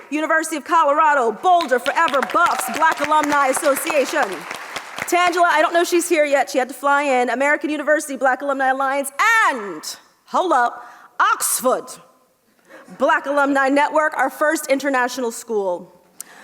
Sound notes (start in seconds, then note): 4.1 audience applauds